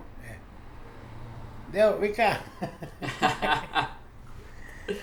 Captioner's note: laughs